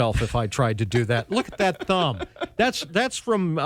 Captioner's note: laughing